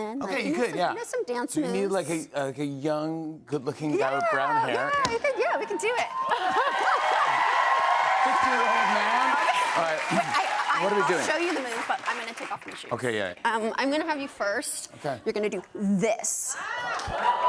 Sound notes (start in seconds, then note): 5.6 cheers and applause